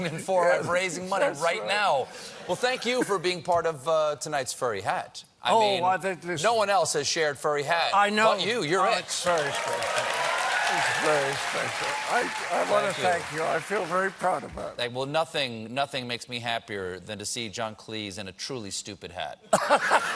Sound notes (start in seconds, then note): 13.4 cheers and applause